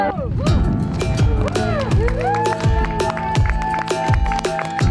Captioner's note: crowd cheering